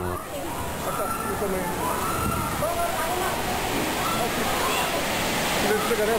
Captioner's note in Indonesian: suara kepanikan